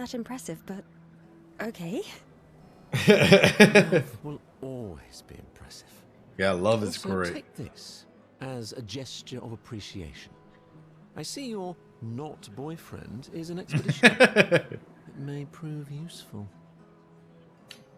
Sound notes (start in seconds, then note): 2.9 laughs; 13.7 laughs